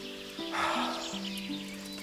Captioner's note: sigh